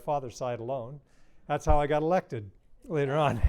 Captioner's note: laughter